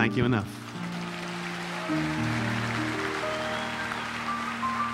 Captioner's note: audience applauding; audience whistling; relaxing piano music continues